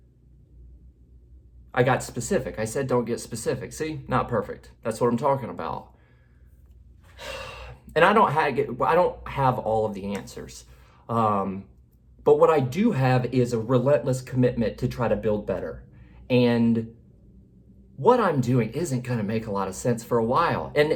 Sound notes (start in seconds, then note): 7.1 sighs